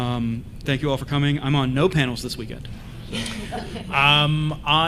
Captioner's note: laughs